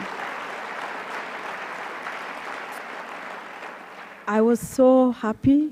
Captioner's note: applause